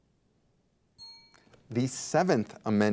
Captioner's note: bell rings